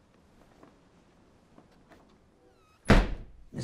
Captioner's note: none